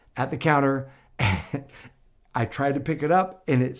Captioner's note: chuckles